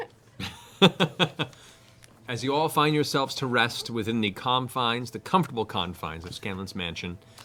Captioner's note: laughs